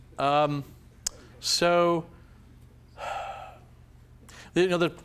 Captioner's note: sighs